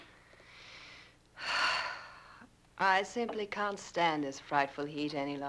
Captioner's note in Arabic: تنهد